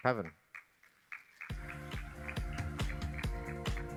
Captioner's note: applause